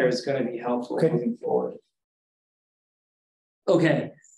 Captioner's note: pause